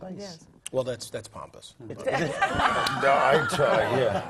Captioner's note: laugh